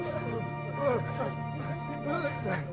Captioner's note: panting